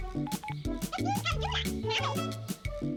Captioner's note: high-pitched speaking